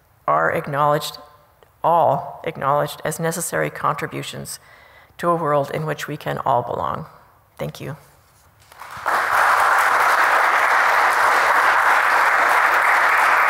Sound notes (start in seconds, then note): 8.6 applause